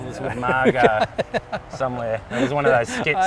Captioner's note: laughs